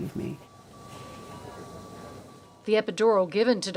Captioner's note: medical devices beeping